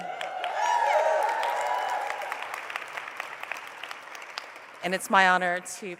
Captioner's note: applause